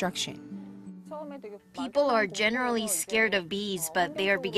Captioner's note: Korean